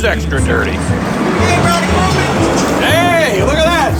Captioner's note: yelling from car